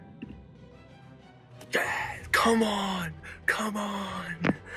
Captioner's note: group yells